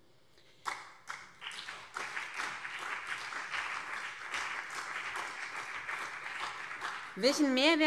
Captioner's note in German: Beifall BÜNDNIS 90/DIE GRÜNEN und vereinzelt CDU